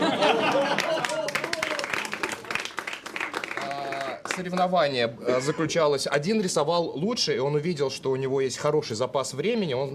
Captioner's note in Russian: аплодисменты